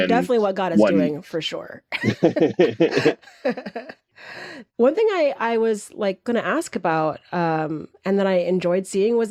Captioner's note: laughter